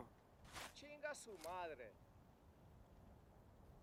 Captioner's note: speaking Spanish